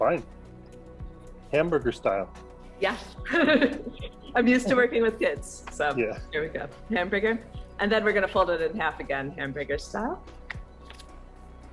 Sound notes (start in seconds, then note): 3.2 laughs